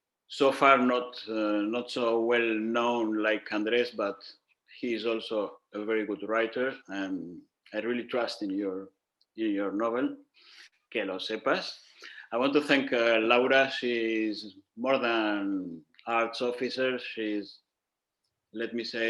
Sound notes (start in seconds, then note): 10.3 speaking in Spanish